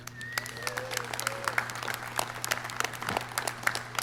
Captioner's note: clapping